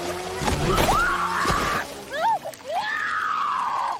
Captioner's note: screaming